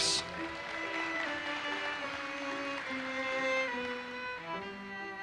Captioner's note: audience applauses